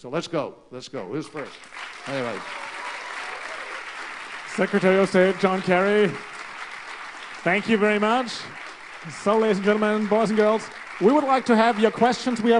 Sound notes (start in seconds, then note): 4.6 applause